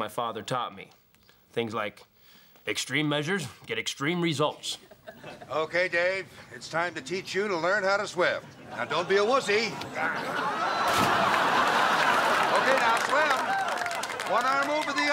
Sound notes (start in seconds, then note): 9.3 screams; 10.9 water splashes